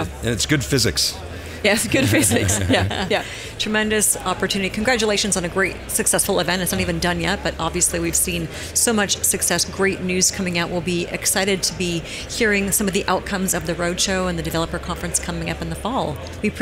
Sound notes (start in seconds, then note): 1.7 laughing